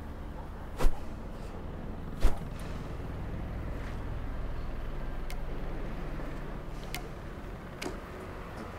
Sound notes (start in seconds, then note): 2.1 bat whiffing